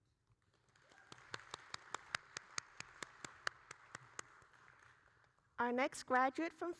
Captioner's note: audience and applauding